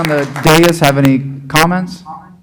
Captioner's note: applause